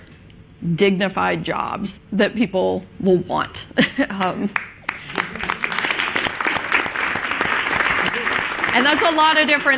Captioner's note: applause